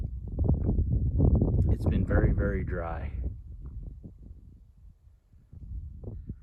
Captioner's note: wind blowing